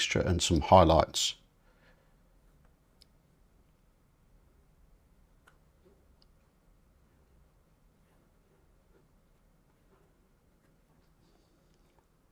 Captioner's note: silence